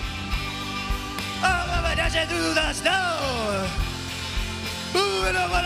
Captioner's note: As Bob Dylan